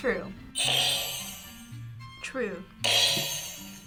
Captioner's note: buzzer rings; buzzer rings